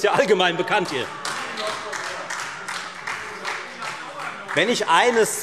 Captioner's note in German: Beifall Freie Demokraten und SPD